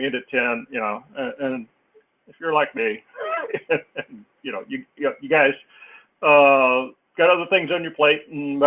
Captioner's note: laughs